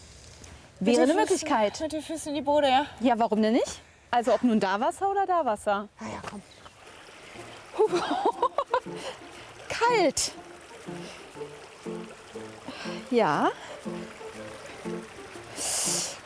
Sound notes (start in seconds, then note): 7.7 laughs